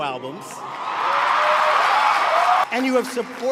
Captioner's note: crowd cheering and applauding